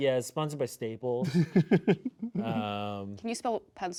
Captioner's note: laughing